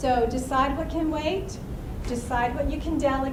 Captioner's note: none